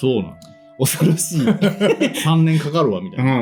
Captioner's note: laughs